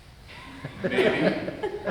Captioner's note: audience laughs